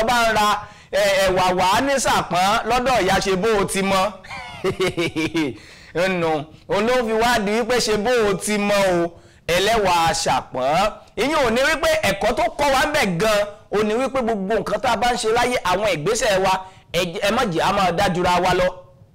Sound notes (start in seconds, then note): 4.2 laughter